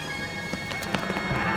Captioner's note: running footsteps